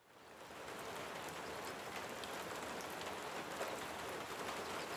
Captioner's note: rain sounds